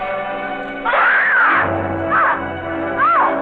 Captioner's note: intense dramatic music; Lucille screaming